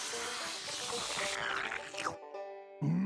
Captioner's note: slurping